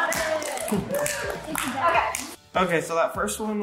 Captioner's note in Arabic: كل التصفيق